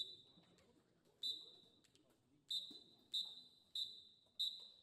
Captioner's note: whistle blowing